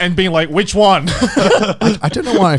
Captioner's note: laughing